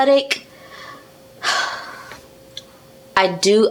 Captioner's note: sigh